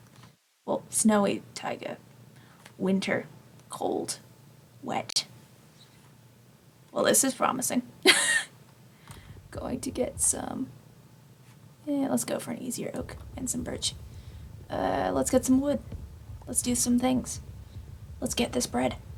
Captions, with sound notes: Well, snowy taiga. Winter. Cold. Wet. Well this is promising. [laughs] Going to get some... let's go for an easier oak. And some birch. Let's get some wood. Let's do some things. Let's get this bread.